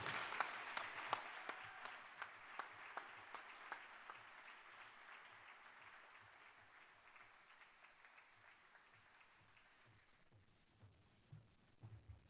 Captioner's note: applause